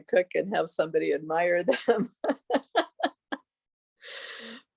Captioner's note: laughing